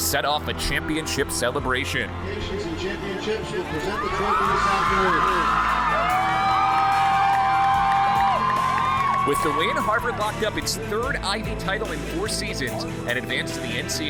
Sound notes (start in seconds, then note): 3.7 cheers